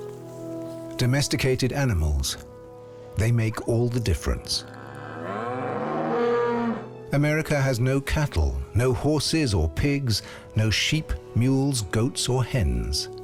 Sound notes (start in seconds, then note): 4.7 bellows